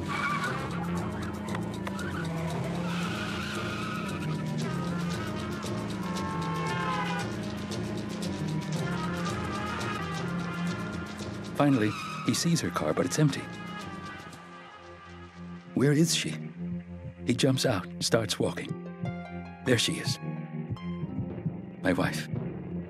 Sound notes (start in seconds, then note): 0.0 tires squealing; 6.5 horn blares